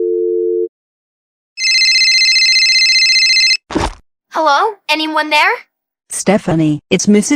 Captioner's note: cell phone ringing